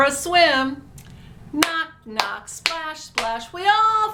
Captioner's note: claps